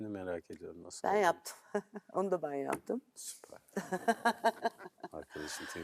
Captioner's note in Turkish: kahkaha